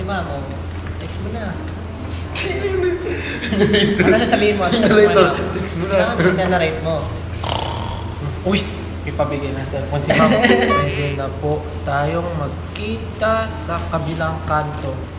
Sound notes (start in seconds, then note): 3.2 chuckles